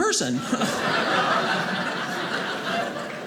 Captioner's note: audience laughing